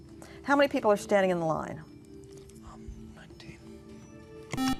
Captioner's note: whispering